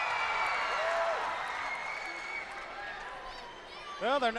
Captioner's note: crowd cheering